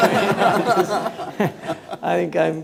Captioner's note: laughing